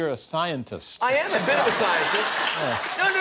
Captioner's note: laughter